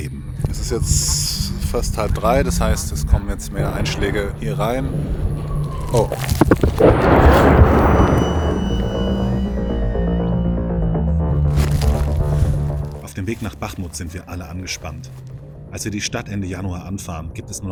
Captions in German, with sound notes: Es ist jetzt fast halb drei, das heißt es kommen jetzt mehr Einschläge hier rein. Oh! (Detonation) (Unheilvolle Musik) Auf dem Weg nach Bachmut sind wir alle angespannt. Als wir die Stadt Ende Januar anfahren,